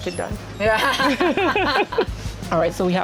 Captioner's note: laughs